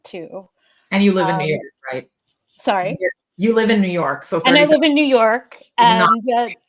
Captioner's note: laughs